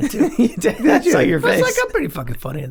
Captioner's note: laughs